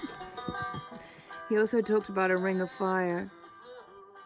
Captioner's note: giggles